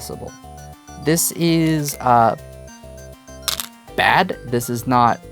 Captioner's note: stones rattling